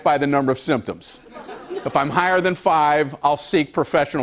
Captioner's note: light laughter